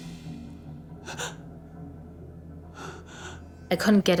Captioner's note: gasps